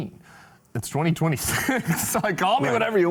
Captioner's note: laughs